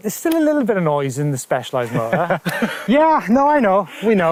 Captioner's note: chuckles; laughs